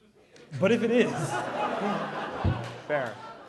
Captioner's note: laughter